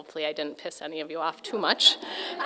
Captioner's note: audience laughing